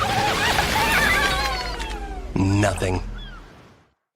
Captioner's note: crabs cheering